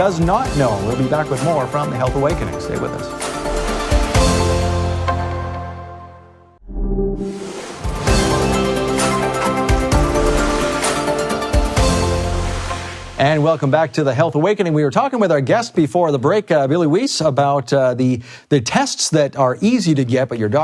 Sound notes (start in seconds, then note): 3.5 upbeat instrumental music; 6.6 air swooshing; 7.2 upbeat instrumental music